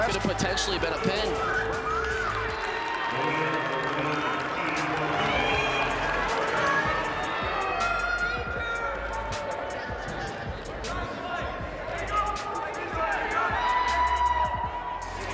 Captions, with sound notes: That could've potentially been a pin. (cheering)